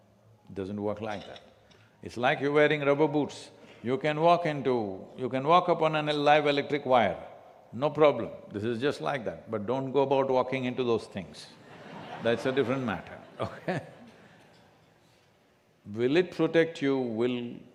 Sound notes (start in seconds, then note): 11.6 laughter; 13.3 laughs